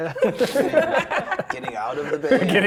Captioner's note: players laughing